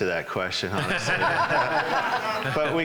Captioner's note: laughing